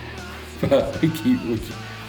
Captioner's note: laughing